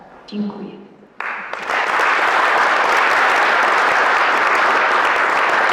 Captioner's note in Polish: Aplauz